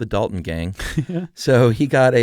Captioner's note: laughs